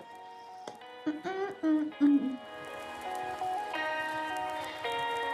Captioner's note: humming; laid back music